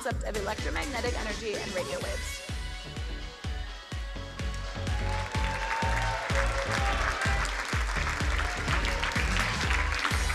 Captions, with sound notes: of electromagnetic energy and radio waves. (energetic electronic music) (crowd cheering and applauding)